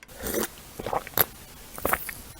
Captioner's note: gulp